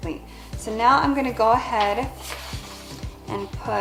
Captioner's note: rustling